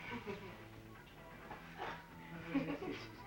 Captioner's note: laughing